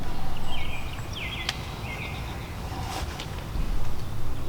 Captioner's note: birds chirping